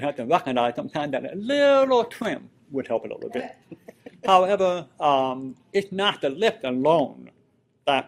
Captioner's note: laughter